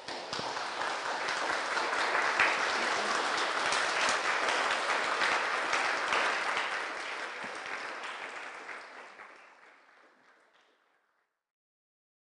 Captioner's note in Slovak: Potlesk